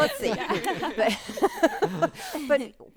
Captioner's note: group laughing